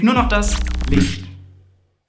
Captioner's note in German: glitching